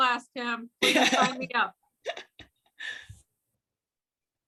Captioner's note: laughs